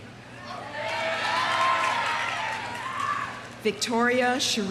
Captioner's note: audience cheering; audience applauding